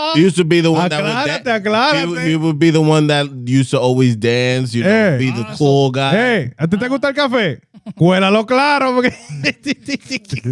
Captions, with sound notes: He used to be the one that-- (Speaking In Foreign Language) He would be the one that used to always dance, he would be the cool guy. Hey, (Speaking In Foreign Language)